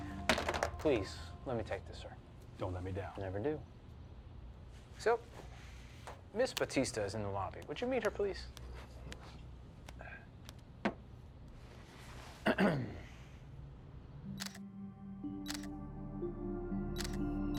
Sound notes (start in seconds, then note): 12.4 Tommy clears his throat; 13.8 camera shutter clicking; 14.2 relaxing music